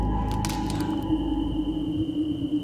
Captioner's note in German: Knacken draußen im Wald